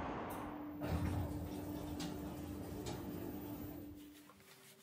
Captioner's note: elevator whirring